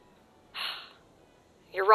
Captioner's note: sigh